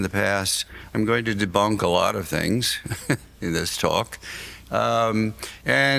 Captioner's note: laughs